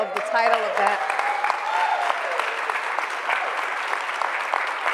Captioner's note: cheering and applause